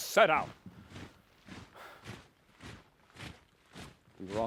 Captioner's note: marching footsteps